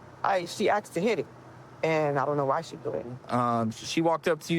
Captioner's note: none